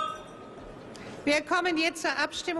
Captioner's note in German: Klingel